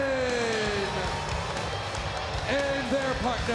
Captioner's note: crowd cheering